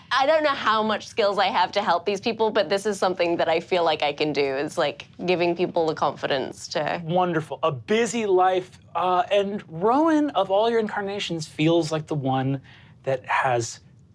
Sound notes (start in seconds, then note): none